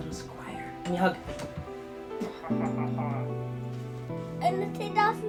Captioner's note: chuckles